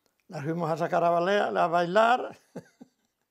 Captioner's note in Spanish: ríe